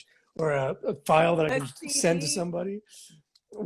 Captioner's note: laughs